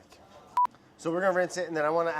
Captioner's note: beeping